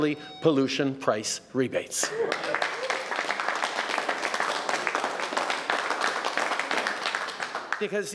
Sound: applause

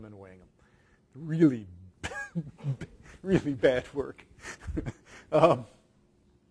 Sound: laughs

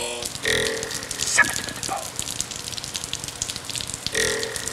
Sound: whispered scatting along with spring noise

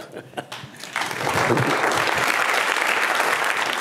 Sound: applause

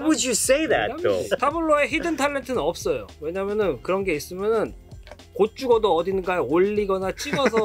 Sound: laughs; speaking in Korean

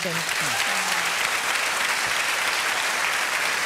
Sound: applause

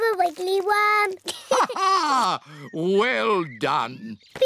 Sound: laughs

